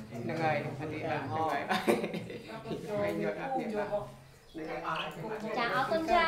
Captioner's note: chattering